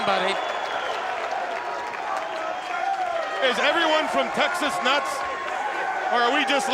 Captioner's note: applause